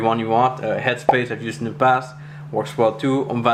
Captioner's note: bubble popping